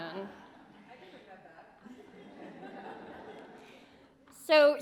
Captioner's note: laughter